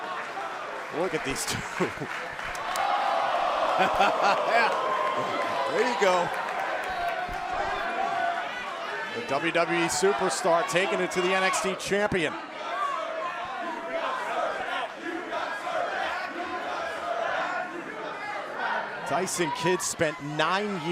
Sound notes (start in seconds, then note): 2.9 cheers and applause; 3.7 laughter; 15.4 fans chanting